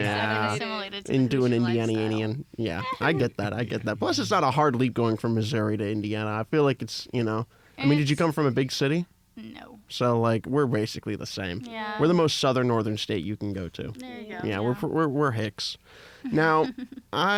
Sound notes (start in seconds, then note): 16.2 laughs